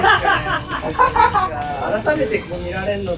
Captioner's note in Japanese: 笑い声